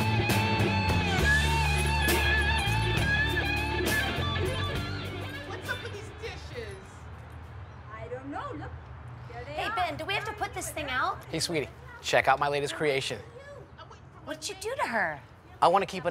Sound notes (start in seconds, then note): 0.0 slow rock guitar music; 5.6 voiceover